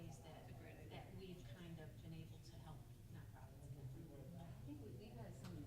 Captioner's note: stammers